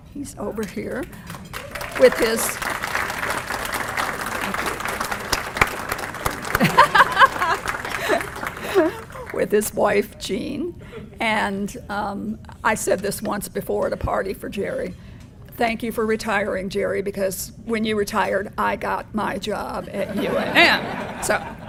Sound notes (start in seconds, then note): 3.4 applause; 6.6 laugh